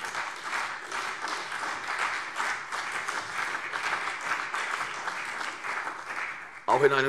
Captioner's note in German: Beifall CDU